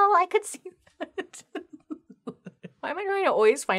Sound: laughs

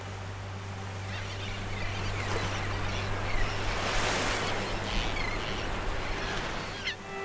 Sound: birds chirping; water sloshing; birds chirping; water sloshing

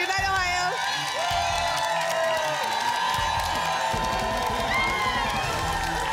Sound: applause and cheering cont

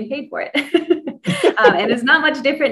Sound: laughs

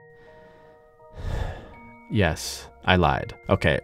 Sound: David sighs

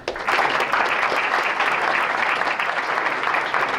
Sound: applause

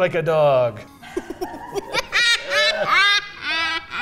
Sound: laughing

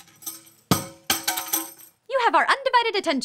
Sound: clattering

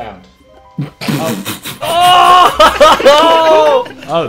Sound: students laughs

